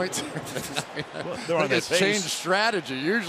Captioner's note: laughs